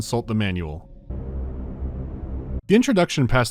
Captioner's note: bwwwww